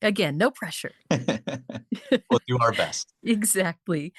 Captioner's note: chuckles